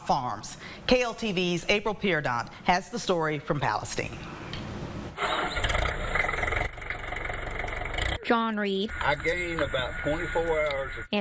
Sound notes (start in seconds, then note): 8.9 nats: tractor turning on